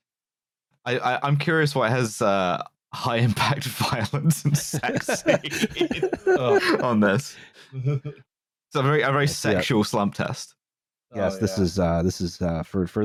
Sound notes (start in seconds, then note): 4.2 laughter; 4.2 laughing